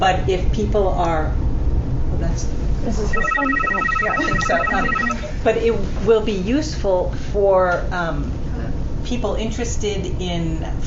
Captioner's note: phone ringing